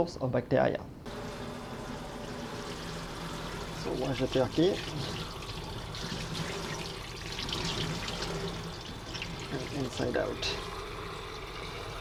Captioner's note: running water